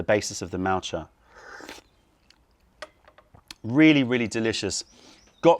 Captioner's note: sips tea